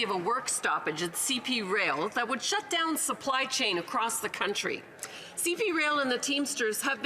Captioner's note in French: voix de l'interprète